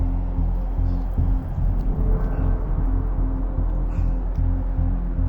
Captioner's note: person breathing heavily